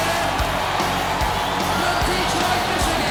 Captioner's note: audience cheers